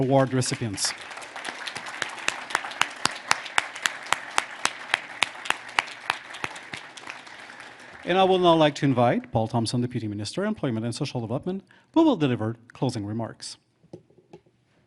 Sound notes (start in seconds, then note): 3.3 applause